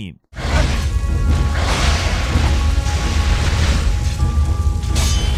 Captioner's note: dramatic music; weapons whooshing; weapons clanking